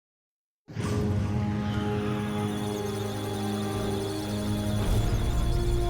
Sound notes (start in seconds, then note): 1.8 musical tones; 2.0 electronic sounds of data